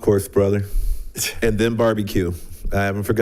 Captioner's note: people chuckling